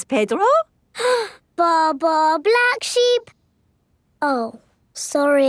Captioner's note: inhales